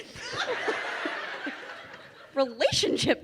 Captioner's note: crowd laughing